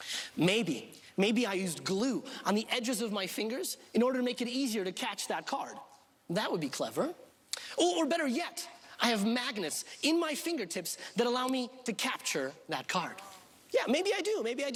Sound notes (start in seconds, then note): none